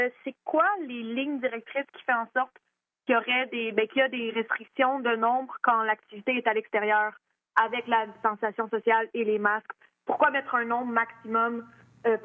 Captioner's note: speaking French